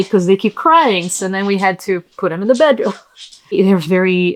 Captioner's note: laughs